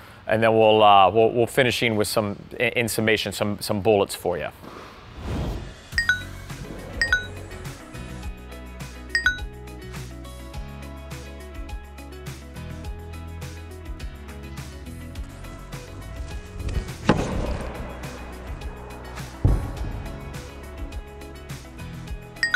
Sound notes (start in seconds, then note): 5.0 gentle instrumental music; 17.0 hitting tennis ball; 19.5 gentle instrumental music